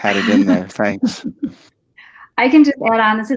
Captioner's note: participants laughing